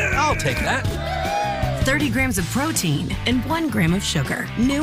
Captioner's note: cheers